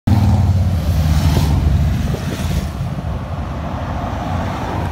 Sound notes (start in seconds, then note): 1.7 vrouuum; 2.6 wind noise